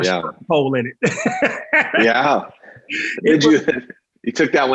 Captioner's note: both laughs